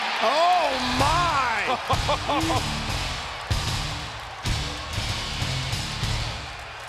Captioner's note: intense music; Jerry laughs